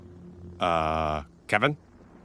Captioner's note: beeps and clicks